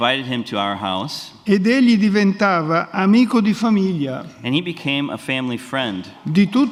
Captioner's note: speaks in Italian